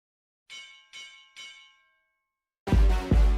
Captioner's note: bell ringing; upbeat music